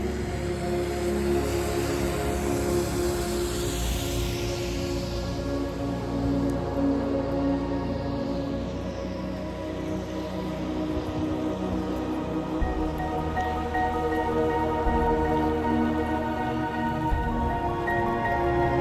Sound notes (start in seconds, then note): 2.2 car passes, tires in the rain